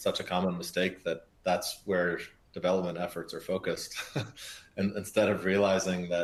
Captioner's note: laughs